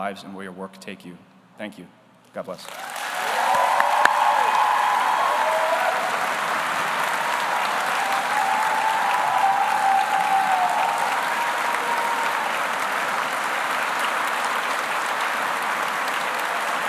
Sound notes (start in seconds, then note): 4.0 audience applauds; 4.0 audience cheers